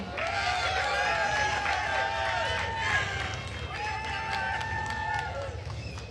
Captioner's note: attendees cheering and applauding